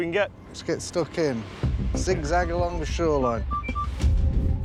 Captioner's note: detector beeping